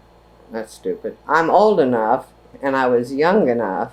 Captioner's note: none